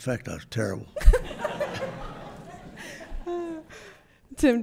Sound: group laughing

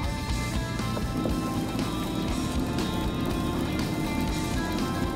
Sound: fishing line whirring

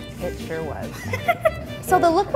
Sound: laughing

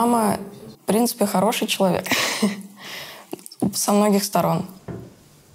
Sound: laughs

